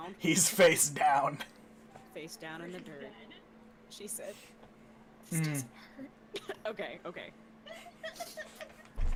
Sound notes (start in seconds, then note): 3.8 whispering; 7.8 crying